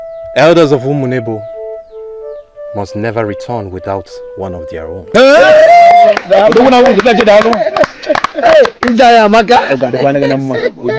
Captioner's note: laughter